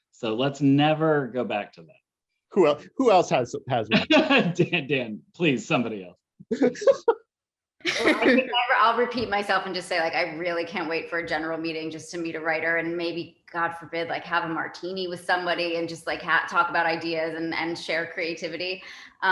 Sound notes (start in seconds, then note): 3.7 laughs; 6.5 laughs